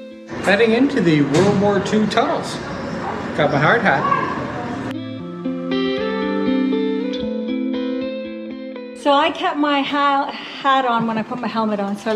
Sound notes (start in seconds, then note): 4.0 boy shouts; 4.9 acoustic guitar music